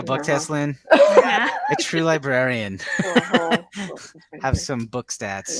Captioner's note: laughs